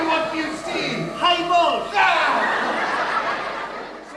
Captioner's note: audience laughing